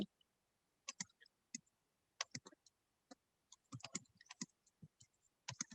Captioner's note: keyboard keys clatter